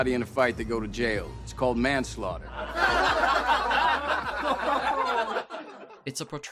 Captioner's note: audience laughing